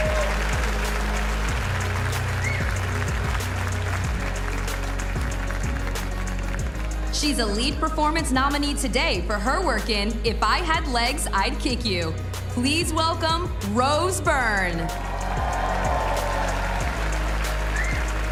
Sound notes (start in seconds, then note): 4.0 cheers and applause